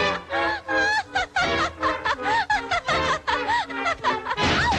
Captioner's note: playful music; Cupid laughs